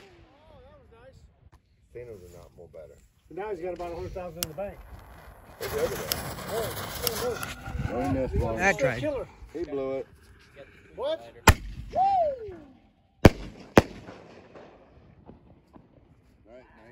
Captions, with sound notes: Woah, that was nice. [Chatter] Ah, crap. He would. What? Woo!